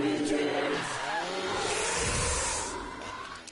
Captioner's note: Sophie roaring; chainsaw blaring